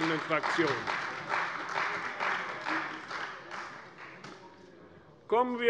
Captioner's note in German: Beifall bei der CDU